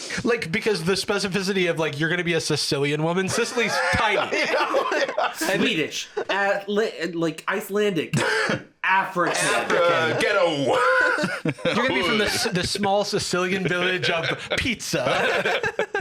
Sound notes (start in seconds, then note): 3.3 laughing